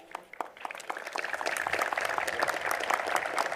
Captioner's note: applause